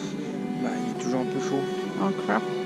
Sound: in french

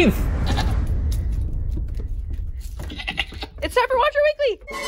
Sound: goat bleating

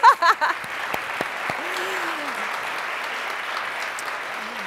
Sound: audience applauding; laughs

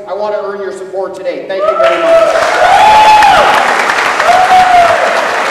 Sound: applause

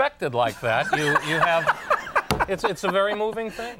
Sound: Conan laughs

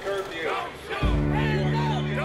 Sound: crowd

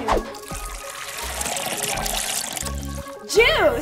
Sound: gasoline pouring

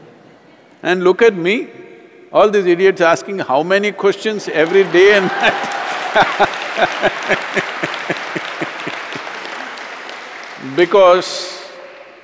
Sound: laughter/Applause

